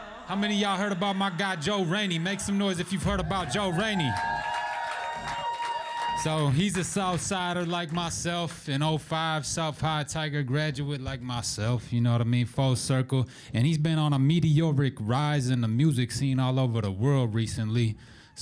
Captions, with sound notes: - How many of y'all heard about my guy Joe Rainey? Make some noise if you've heard about Joe Rainey. (audience cheering) So he's a southsider like myself, an '05 South High Tiger graduate like myself. You know what I mean, full circle. And he's been on a meteoric rising the music scene all over the world recently.